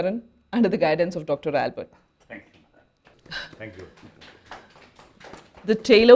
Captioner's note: applauses